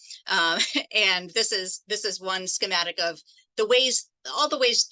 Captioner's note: laughs